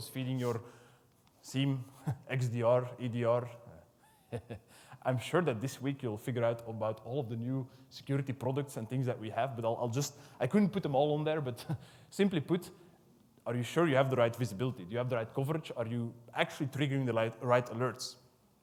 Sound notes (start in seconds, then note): 4.1 laughs